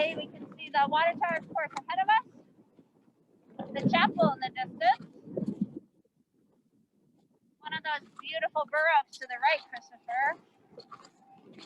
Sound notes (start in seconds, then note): 5.9 wind gusting